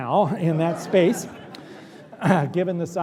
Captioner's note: laughter